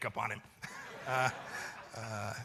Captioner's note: laughter